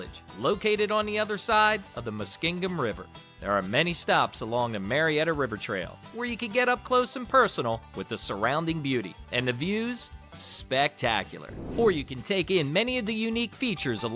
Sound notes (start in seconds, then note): 11.4 air whooshing